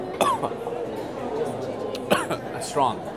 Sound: coughs again

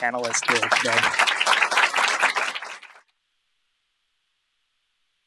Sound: applause

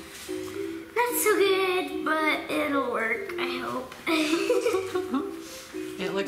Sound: laughs

